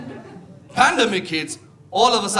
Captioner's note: audience laughing